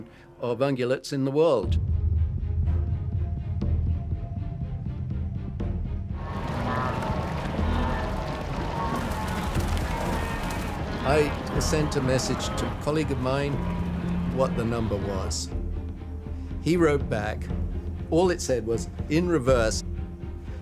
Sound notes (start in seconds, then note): 6.3 stampede rumbling